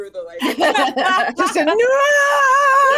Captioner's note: laughing